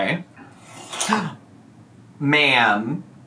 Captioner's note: exclaiming